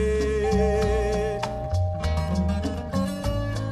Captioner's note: the bell rings